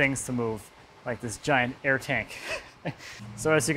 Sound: laughs

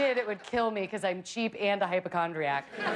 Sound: laughter

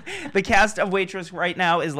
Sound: laughing

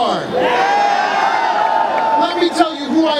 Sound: cheering

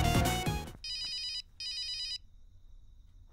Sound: phone ringing

